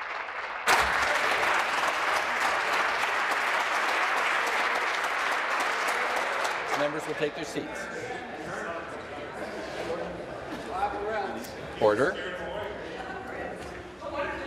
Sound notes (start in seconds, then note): 2.1 applause